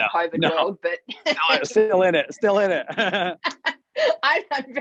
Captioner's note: laughs